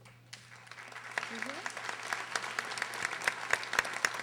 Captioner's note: audience applauding